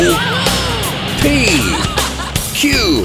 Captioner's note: giggling